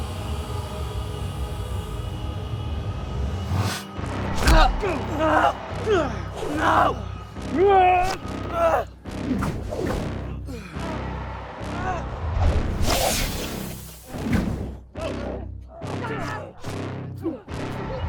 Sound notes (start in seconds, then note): 4.4 grunting; 13.0 dramatic orchestral music; 13.0 zapping